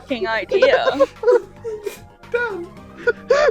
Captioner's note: laughter; laughter